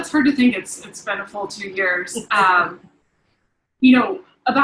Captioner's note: giggling